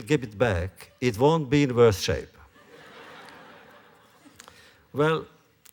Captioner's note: laughter